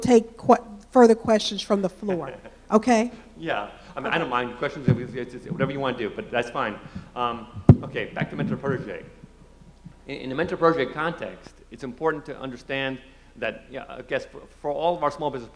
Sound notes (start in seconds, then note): 4.6 laughs